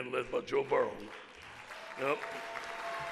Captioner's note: audience applauds